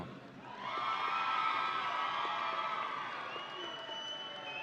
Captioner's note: audience cheering